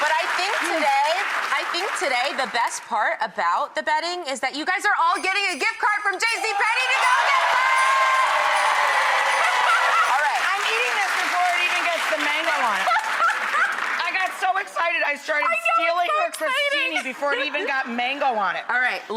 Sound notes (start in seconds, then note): 8.7 applause and cheers; 12.5 laughs